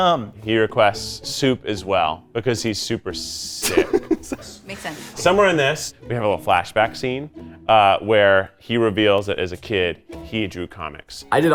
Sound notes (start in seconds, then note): 3.6 laughs